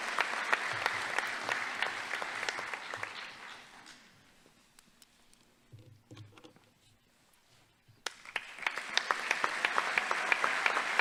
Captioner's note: applause